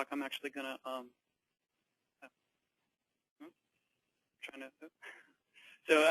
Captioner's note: long pause